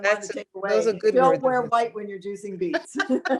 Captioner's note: all laughing